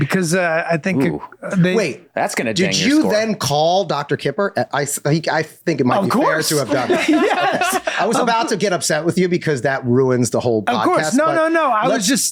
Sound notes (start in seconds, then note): 5.9 all laughing